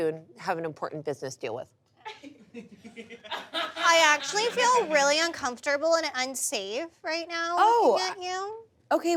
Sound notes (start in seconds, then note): 2.2 audience laughs